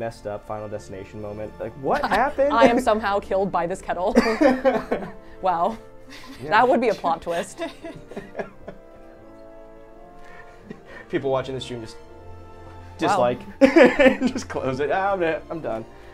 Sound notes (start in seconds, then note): 7.2 all laughing; 13.6 laughs